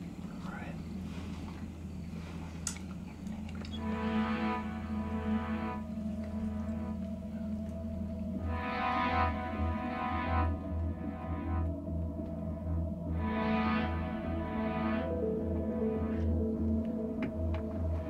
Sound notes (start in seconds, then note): 4.5 Claire whispering; 8.7 tense music